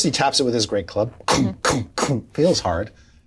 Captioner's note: imitates club banging